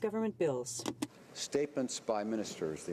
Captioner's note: speaking French